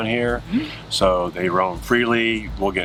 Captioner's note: laughs